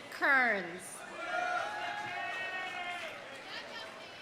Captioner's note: audience applauding; audience cheering